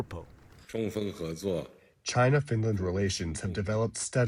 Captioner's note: through translator